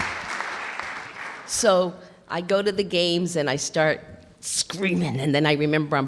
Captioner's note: clapping